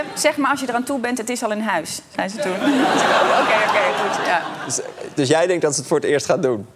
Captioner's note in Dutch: gelach